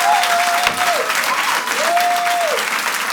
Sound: audience continues to applaud and cheer; gavel bangs; audience continues to applaud and cheer

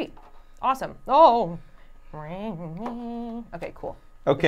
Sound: gasps

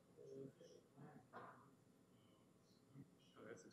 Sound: background chatter

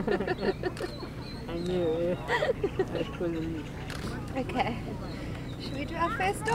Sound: laughs

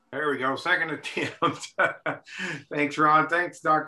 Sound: laughs

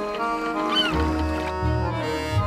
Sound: seagull squawk

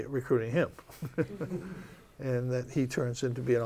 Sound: laughter

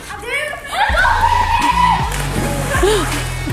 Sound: excited screaming; laughing

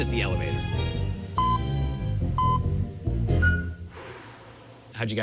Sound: electronic beeping

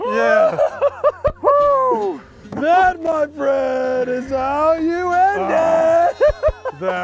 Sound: cheers

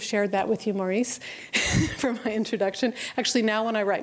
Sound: laughter

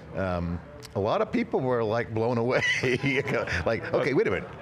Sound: laughs

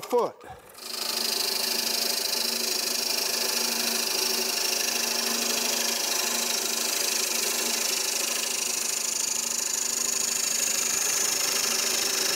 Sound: chisel scrapes

